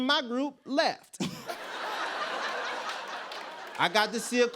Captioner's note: laughter